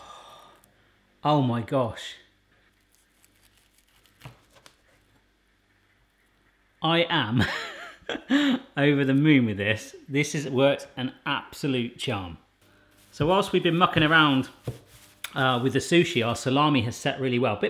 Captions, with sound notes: Oh my gosh. I am... (laughing) Over the moon with this, this works an absolute charm. So whilst we've been mucking around with the sushi, our salami has set really well.